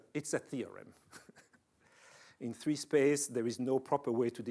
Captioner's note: chuckling